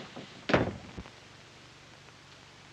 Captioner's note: door closes